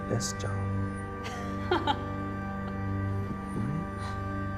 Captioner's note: Gabriella laughs